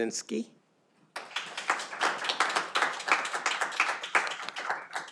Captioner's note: audience applauding